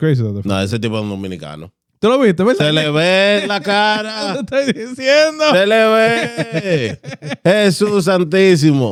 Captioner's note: speaking Spanish